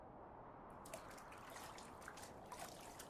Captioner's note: wind; wind, water sounds; wind, water sounds, radiation meter clicking, scrubbing